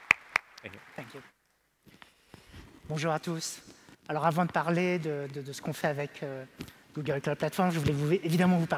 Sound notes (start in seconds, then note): 3.1 speaking french